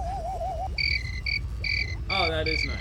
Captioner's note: chirping